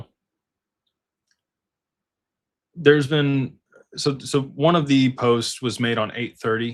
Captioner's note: none